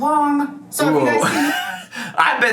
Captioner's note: laughs